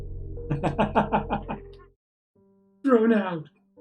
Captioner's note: laughs